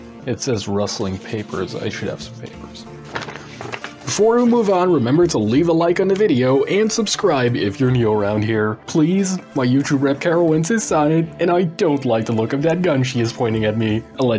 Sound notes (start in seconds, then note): 2.9 rustling Papers